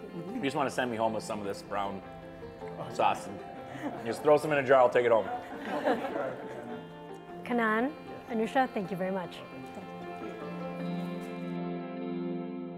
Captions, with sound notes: - You just wanna send me home with some of this brown sauce. Just throw some in a jar, I'll take it home. (all laugh) - Kannan-- - Yes. - Anusha, thank you very much.